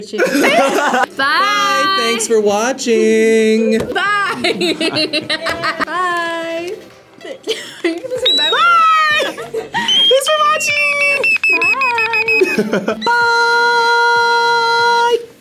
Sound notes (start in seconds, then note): 0.2 both laugh; 3.8 laughs; 9.8 otamatone beeps; 14.2 otamatone beeps